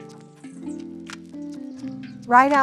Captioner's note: birds chirping; upbeat music continues